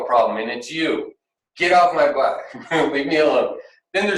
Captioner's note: chuckles